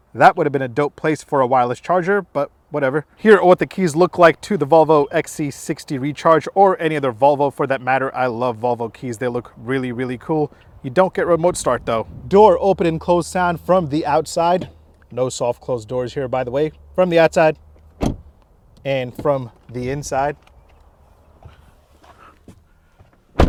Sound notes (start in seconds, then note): 17.9 door closing; 21.5 door opening; 23.3 door closing